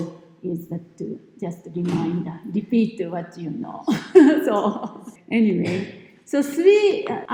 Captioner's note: laughs